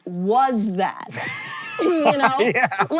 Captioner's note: HANK wheeze-laughs